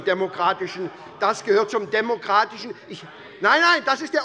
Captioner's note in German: Zurufe von der CDU